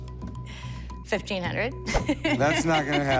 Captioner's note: laughs